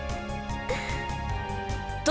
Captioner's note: nervous breath